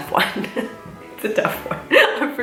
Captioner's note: laughs